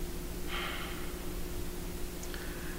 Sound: exhales

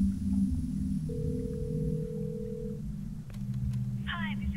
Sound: phone ringing

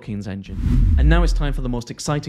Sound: whooshing

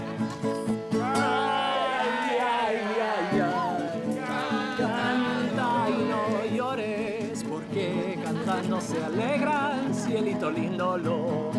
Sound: in Spanish, and the others repeating; everyone cheers and claps

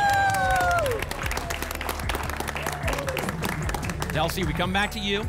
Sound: applause and cheering

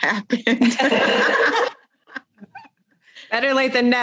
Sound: both laugh

